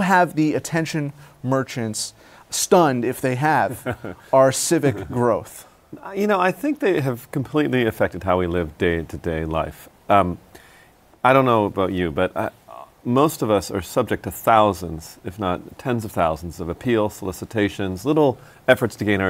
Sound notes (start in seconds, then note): 3.6 laughs